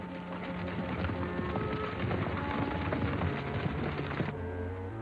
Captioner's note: horses galloping